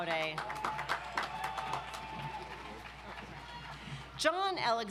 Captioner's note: audience applauds